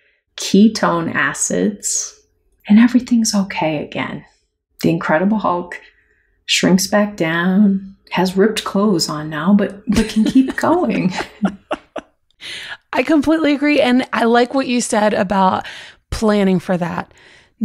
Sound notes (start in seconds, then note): 10.0 laughter